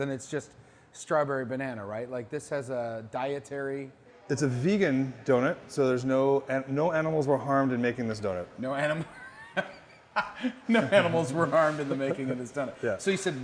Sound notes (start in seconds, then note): 9.0 laughing